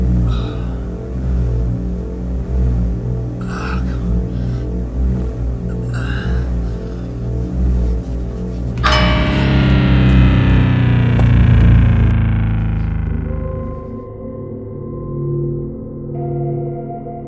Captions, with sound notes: Argh, come on. [bang] [calm music]